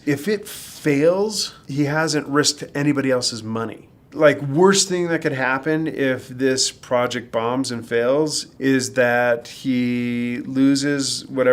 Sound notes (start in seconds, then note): none